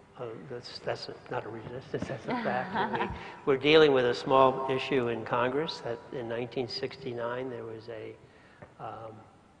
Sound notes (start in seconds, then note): 2.3 laugh